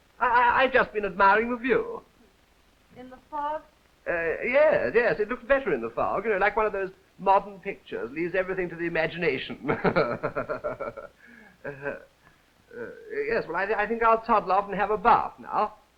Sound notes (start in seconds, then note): 11.6 laughs